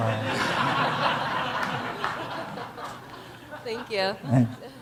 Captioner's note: audience laughing